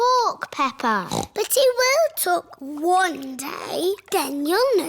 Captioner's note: snorts